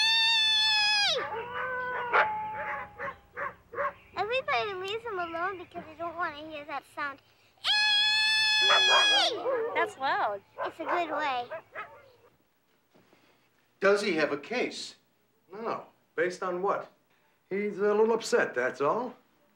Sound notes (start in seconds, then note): 1.0 dogs howl and bark; 8.5 dogs bark and howl